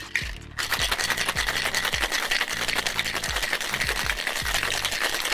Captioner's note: cocktail being shaken